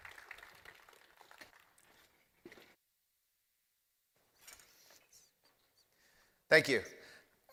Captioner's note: applause